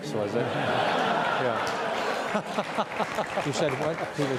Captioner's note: audience laugh